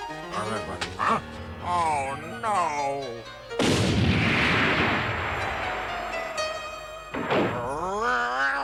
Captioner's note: snoring